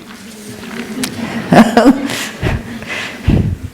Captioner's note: laughter